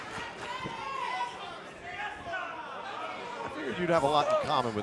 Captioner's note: crowd chatter